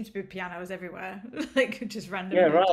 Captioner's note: laughter